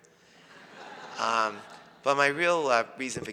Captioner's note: audience laughs